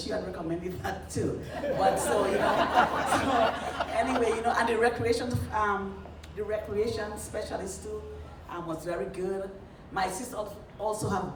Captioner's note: laughter